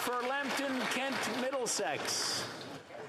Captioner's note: some Applause